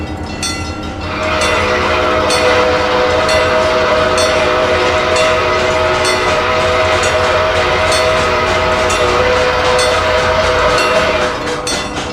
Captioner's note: C&O Greenbrier whistle